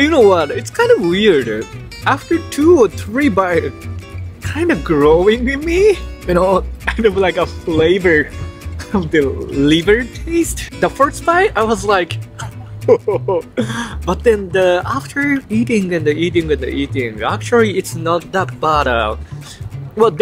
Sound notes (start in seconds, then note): 12.3 laughs